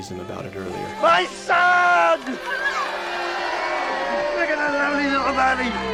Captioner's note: crowd cheers